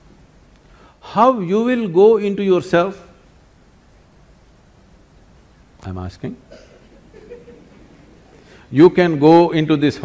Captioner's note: laughter